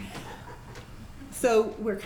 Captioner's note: laughs